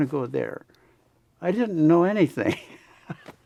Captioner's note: laughs